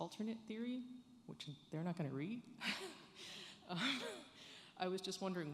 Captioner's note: chuckles